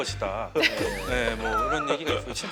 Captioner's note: laughing